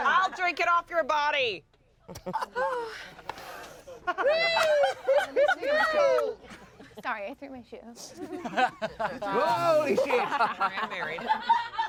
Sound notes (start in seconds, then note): 1.9 everyone laughs; 8.4 everyone laughs